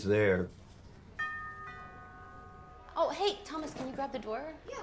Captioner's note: door bell chiming